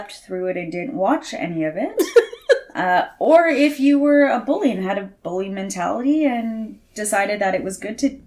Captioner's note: laughs